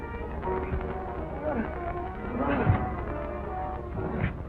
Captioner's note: groans